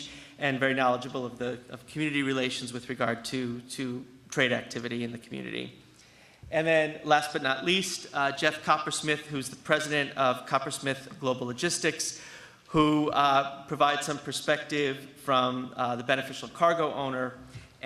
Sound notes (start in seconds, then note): none